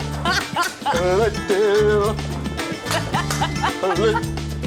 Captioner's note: laughs